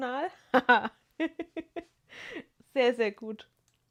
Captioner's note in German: gelächter